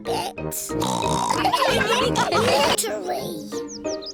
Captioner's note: snorts; all laughing